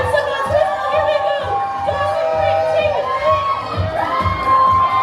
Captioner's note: crowd cheering